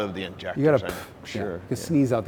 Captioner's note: blows air